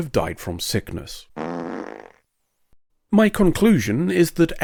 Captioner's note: fart noise